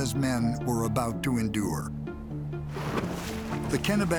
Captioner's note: water spraying